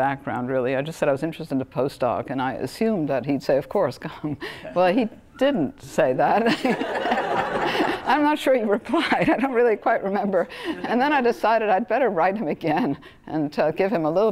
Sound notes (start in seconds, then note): 6.4 laughter; 6.5 laugh